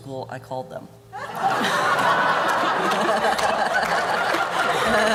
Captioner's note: laughter